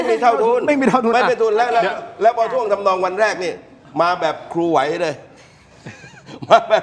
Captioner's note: laughter